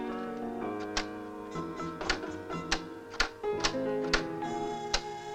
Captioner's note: switches clicking